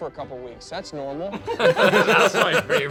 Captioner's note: laugh